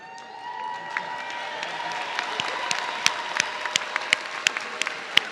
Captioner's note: audience cheering